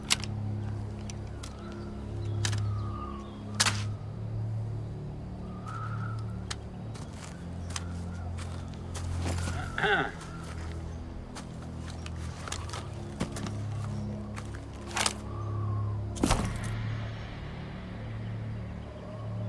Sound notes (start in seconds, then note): 9.6 Abraham clears throat; 15.3 suspenseful music